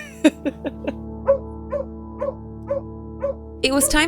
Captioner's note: gentle music; dogs barking